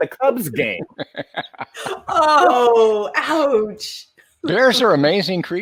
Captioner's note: laughing